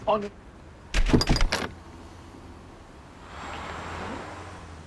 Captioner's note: door slamming